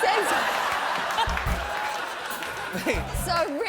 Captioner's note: laughter